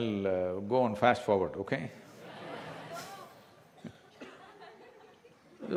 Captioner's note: few laugh